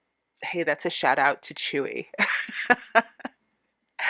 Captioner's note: laughing